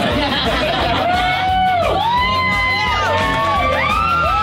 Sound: crowd cheering

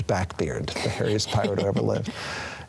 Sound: chuckles

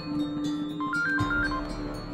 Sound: phone Ringing

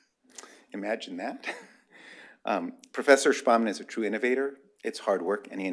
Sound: laughter

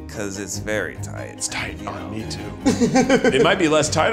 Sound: Zach laughs

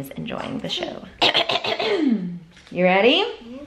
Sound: clears throat

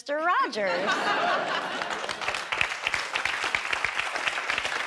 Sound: laughter and applause

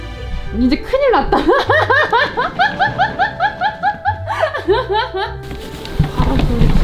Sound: laugh

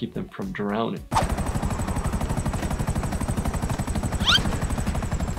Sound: helicopter whirring

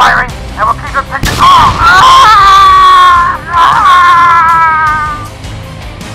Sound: gunshot Sounds

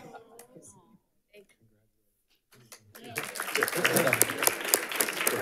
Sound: audience laughing; speaking faintly; audience applauding

